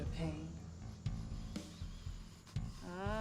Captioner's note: Crow breathes deeply